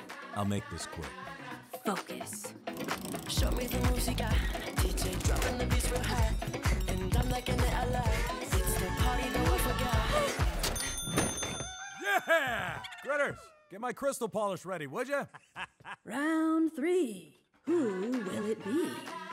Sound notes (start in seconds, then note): 3.3 upbeat music; 10.6 bell rings; 15.1 Alphabittle laughs